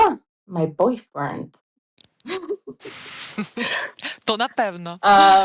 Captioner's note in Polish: śmiech